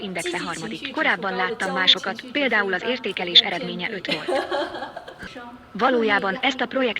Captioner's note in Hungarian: nevetés